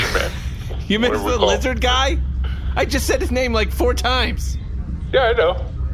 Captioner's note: exasperated